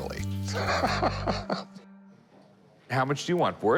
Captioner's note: laughs